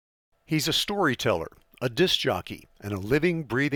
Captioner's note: voiceover